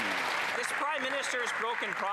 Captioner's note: applause